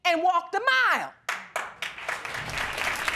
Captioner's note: applause